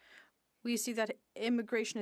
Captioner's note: speaking French